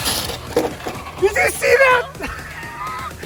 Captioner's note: foam scratching; laughing